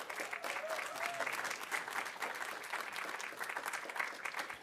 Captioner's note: audience applauding